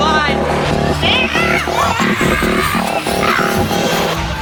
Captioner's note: yells